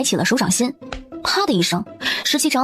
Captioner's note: slap